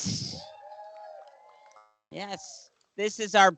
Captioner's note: cheering